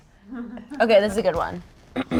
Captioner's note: crew member laughs